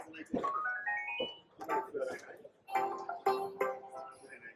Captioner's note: digital beeping noises